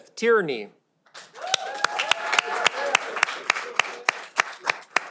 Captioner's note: audience applauding